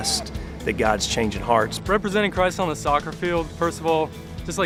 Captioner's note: voiceover